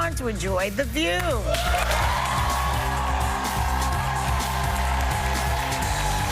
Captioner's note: cheers and applause